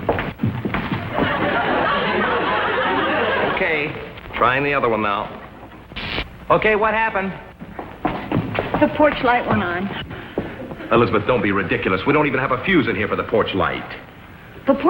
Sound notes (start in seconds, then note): 0.9 audience laughing; 6.1 electrical buzzing